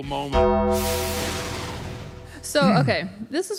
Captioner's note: bell rings